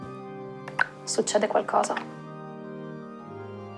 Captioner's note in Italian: Gocce che cadono